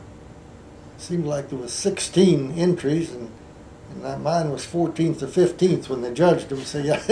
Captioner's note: laughs